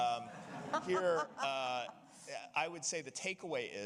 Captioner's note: audience laughing